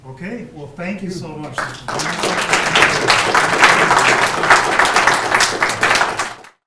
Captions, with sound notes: Okay well, thank you so much. (audience applauding)